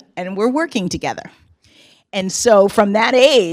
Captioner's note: none